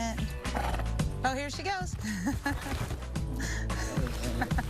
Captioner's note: laughing